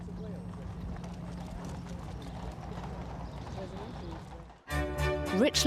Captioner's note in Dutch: mensen kwebbelen; heldere muziek